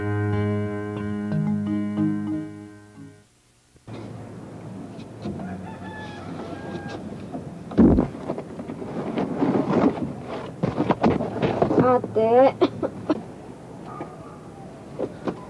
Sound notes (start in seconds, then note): 5.3 rooster crows; 7.8 thud; 7.8 nipa basket crunches; 12.5 coughing